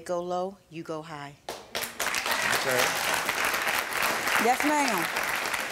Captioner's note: audience applauding